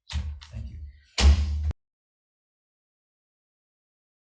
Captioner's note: gavel bangs